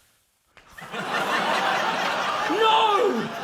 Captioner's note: laughter